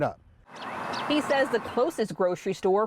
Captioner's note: natural sound of outdoors